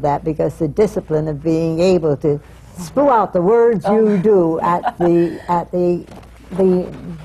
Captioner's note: j. smith-cameron laughs